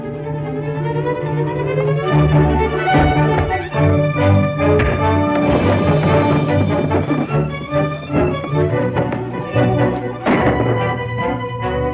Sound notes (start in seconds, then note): 5.2 punch thuds; 10.2 gunshot